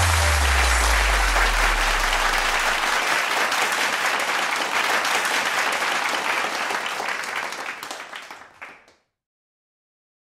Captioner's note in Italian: Applauso